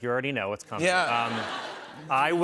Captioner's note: laughter